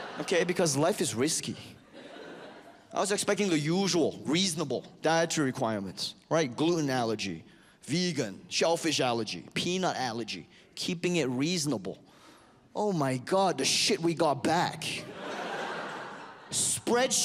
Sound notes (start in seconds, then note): 15.0 audience laughs